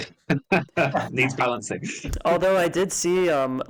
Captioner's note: laughs